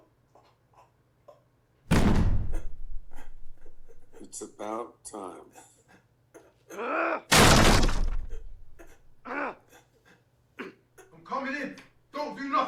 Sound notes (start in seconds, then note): 1.9 loud bang; 7.3 louder bang on the door